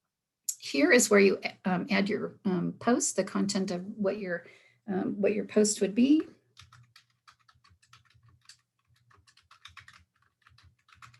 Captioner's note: sound of typing